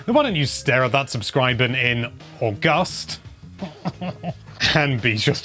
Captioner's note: self-Congratulatory Sniggering